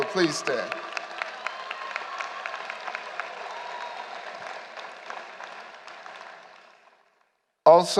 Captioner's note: applause